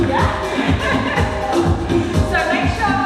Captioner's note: laughs